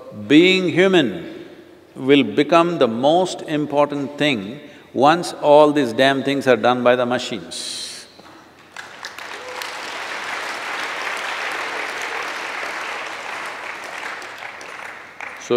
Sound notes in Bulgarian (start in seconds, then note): 4.8 аплодисменти